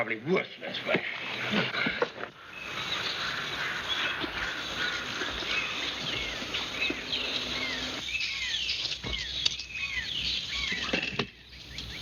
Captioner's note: birds chirping